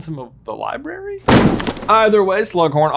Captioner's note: book thuds